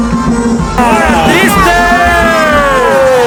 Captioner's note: cheers